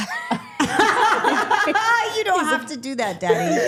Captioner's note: everyone laughing